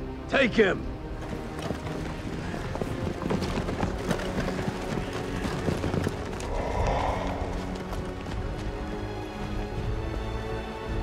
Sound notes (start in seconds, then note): 1.7 crimson guards panting; 6.2 breathes deeply